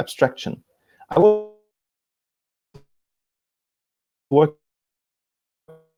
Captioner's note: distortion muffles speaker